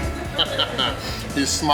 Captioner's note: laughs